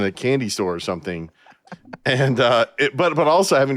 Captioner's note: laughter; laughing